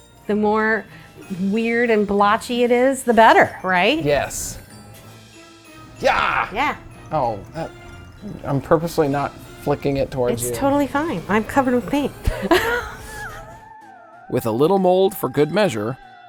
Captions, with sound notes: The more weird and blotchy it is, the better, right? Yes! Yaaaww! -Yeah. I'm purposely not flicking it towards you. It's totally fine. I'm covered in paint. (laughing) With a little mold for good measure,